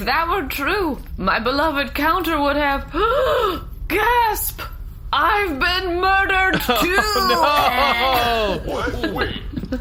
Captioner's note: death rattle